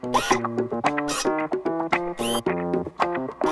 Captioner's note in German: Mechanisches Dreh-Geräusch